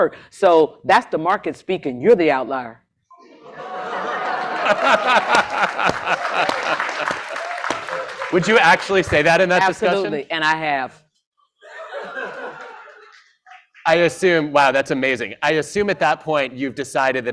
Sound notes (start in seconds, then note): 3.2 crowd cheering; 5.0 laughter; 11.6 laughter